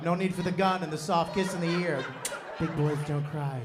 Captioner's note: laughter